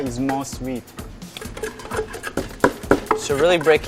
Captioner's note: sound of mortar and pestle